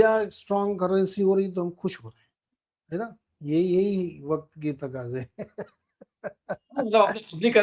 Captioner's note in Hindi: हंसी